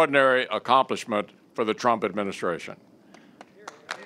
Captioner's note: applause